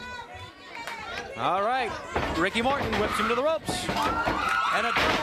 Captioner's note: crowd cheering